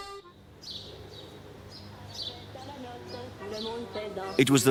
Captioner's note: bright accordion music; birds chirping